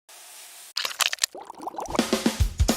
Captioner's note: sizzling, mushing, boiling; upbeat music